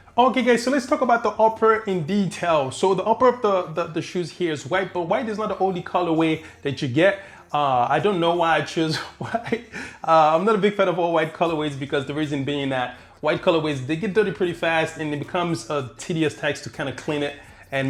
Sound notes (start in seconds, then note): 8.9 laughing